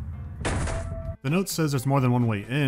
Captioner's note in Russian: шмяк